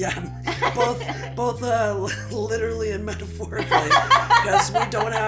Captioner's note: psychedlic joke realization and laughter; laughter